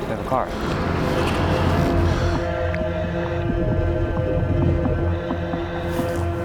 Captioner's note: eerie music continues; water bubbling